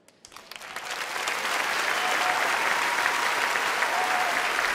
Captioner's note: audience applauding